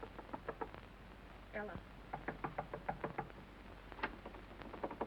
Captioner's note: knocking